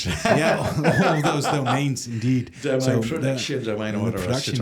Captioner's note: laughs